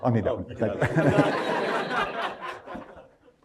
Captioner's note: laughter